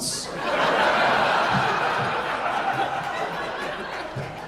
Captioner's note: audience laughing